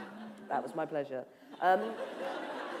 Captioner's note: laughter